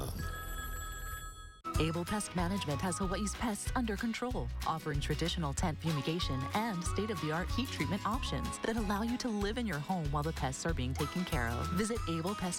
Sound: phone rings

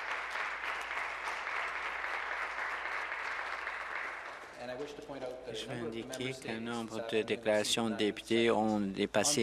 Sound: applause

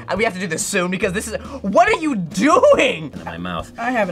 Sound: gasps

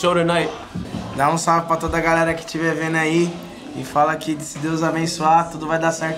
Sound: speaking in foreign language

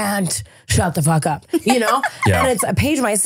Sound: laughing

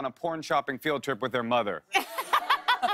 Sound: laughs

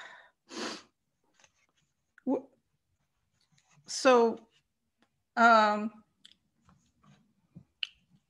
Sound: silence

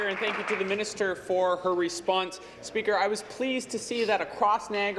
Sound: applause

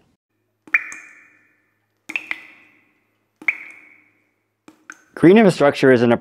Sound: water drops

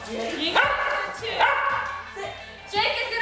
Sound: dog barks over Mom

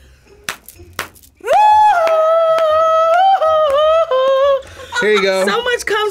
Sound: yelling; clapping

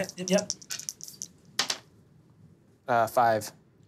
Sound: dice clattering

